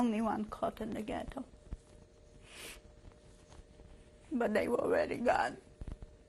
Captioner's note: pauses for 3 seconds